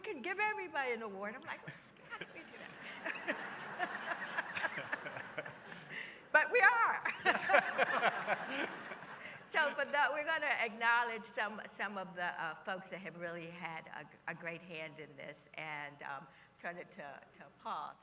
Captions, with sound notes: give everybody an award. [laughter] I'm like how can we do that? [laughter continues] But we are! [laughter continues] So, but we're gonna acknowledge some of the folks that have really had a great hand in this and turn it to you Paul to